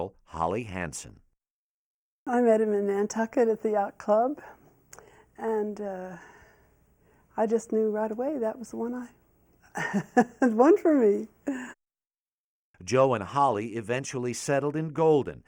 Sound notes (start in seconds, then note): 9.7 laughs